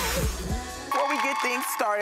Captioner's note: soothing music; crowd cheers and applauds